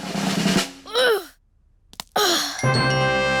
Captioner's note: drum roll; groans